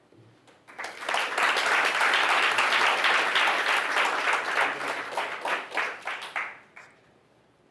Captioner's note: applause